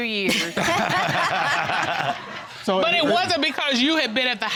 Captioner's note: all laughing